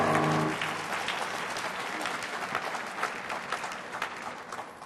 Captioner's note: audience applauds